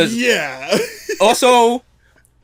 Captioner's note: laughs